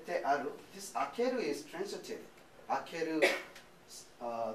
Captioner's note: speaking japanese